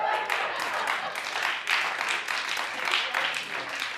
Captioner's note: audience applauds